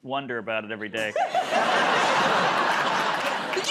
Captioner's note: laughter